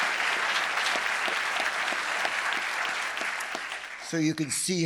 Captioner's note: audience applauding continues